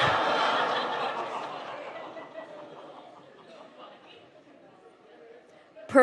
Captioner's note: audience exclaims; laughter